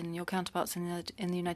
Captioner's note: speaking French